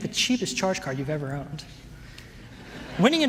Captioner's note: laughter